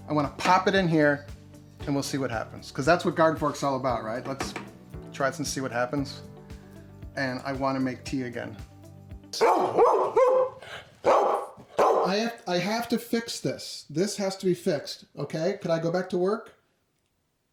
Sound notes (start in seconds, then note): 11.0 barking